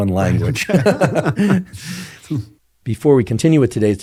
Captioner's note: both laughing